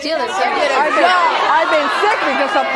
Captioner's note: audience hollering